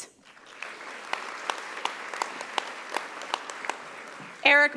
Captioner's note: audience applauding